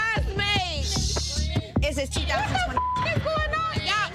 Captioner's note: beep